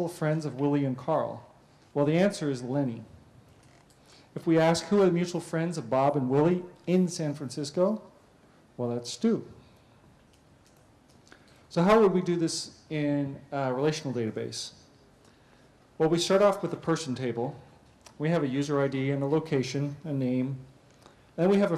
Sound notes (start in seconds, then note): 9.3 pause